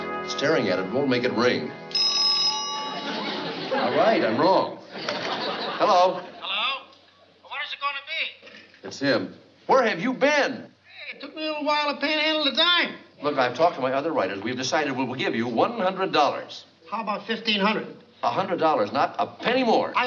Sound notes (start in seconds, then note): 1.9 phone rings; 6.6 on phone